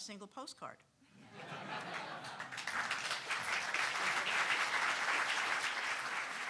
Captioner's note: audience laughing; audience applauding